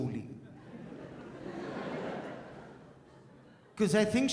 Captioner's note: audience laughs